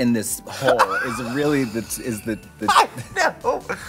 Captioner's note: Trixie laughs